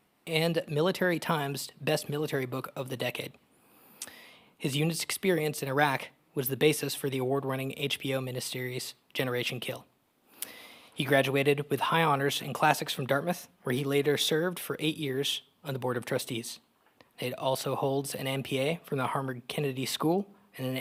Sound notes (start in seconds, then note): none